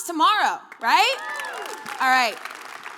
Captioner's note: audience cheering and clapping